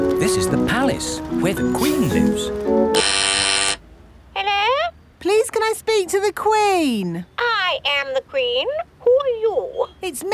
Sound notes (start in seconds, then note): 2.8 doorbell ringing; 4.6 over intercom